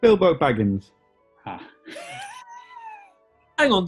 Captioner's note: sniggering